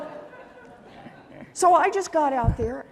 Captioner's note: laughter